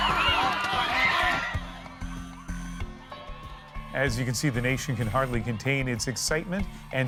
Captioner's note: crowd noise